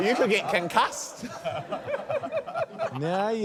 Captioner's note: laughter